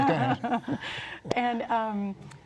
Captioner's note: laughter